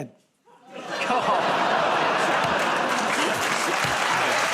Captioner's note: audience groans; cheers and applause